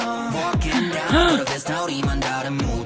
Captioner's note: gasp